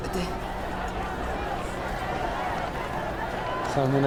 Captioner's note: roar of chatter